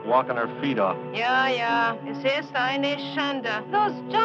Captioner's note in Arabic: الصوت المنطوق باللغة الألمانية